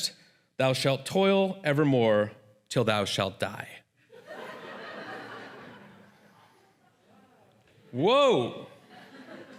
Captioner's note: laughter